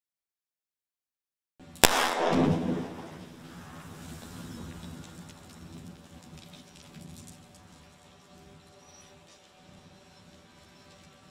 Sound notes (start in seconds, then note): 1.8 explosive booming; 1.9 rocks clattering